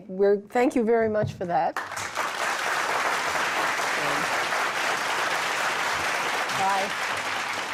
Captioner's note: applause